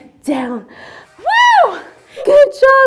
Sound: screams

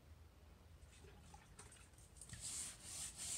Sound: water splash; scrubbing

